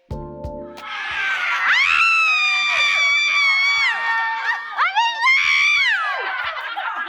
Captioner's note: people shrieking in excitement